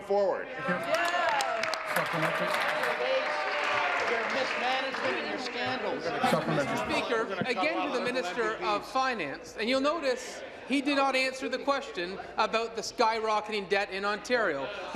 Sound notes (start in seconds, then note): 3.9 applause